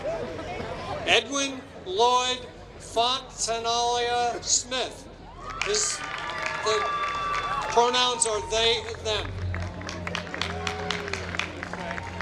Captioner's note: applause